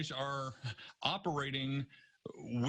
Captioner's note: laughter